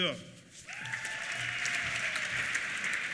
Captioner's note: applause; cheers